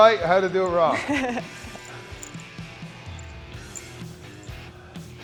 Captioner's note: Sol chuckles; upbeat music